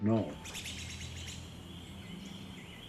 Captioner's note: birds chirping